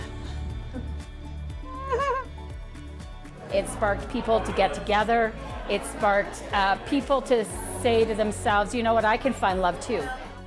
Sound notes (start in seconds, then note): 1.6 giggling